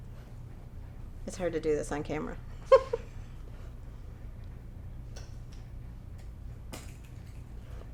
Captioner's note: giggles